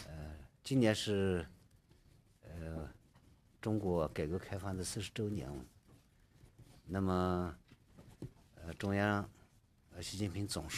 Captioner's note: speaking Alternate Language